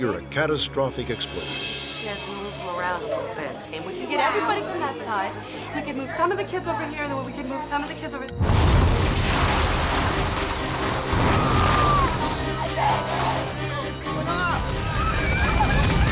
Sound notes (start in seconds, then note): 8.4 exploding and crashing; 11.1 screaming; 13.2 fire alarms ringing